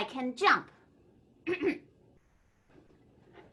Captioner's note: coughs